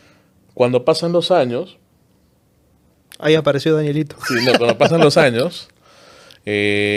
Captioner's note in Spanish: risas